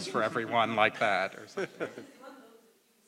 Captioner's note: laugh